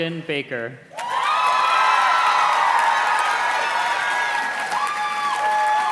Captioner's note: audience cheers and claps